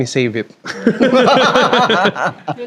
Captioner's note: laughs